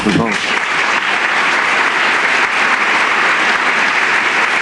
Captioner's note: applause